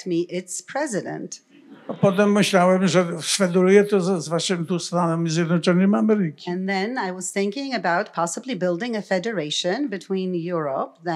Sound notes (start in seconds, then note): 1.6 laughter; 3.0 foreign language